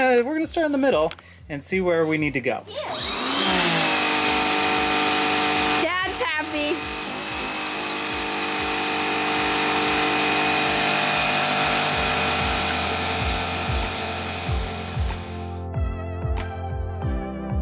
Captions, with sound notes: We're gonna start in the middle and see where we need to go. (power washer whirring) (light music)